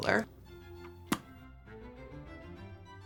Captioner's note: pops lips